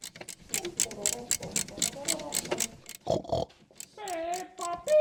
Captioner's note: Hums Peppa Pig intro; snorts in tune